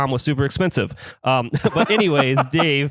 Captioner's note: laughs